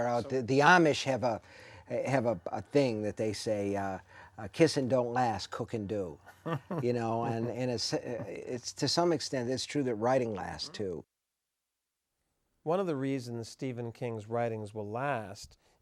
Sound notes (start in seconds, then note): 6.2 laughing